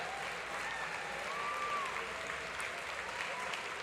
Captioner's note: applause; cheering